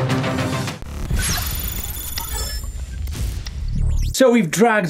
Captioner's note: electric buzzing